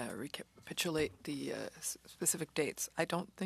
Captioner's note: speaking French